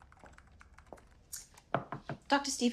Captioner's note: knocking